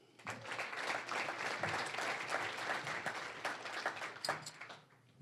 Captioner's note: applause